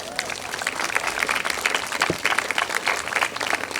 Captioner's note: group applauds; audience laughs